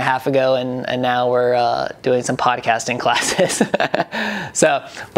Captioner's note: laughs